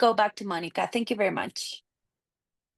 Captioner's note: speaking Spanish